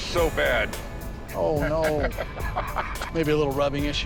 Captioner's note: chuckling